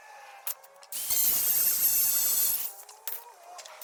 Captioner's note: machine buzzing